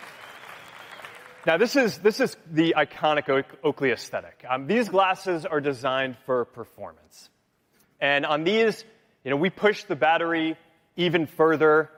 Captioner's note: cheering